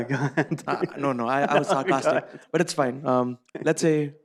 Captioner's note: laughs